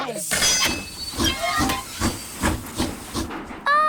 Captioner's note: train chugs